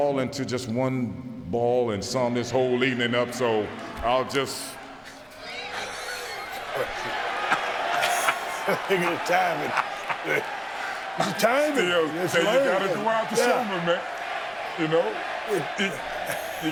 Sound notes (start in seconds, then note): 5.7 both laughing